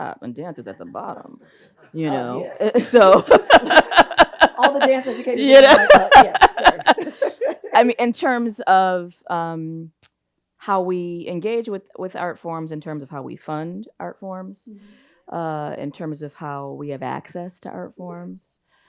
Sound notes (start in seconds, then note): 4.2 both laughs